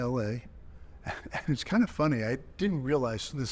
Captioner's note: chuckling